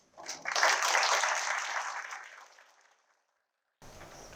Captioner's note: applause